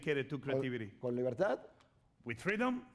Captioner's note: speaking spanish